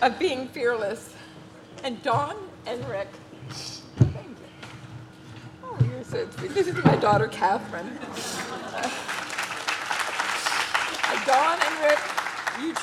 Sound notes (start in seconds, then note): 8.3 audience claps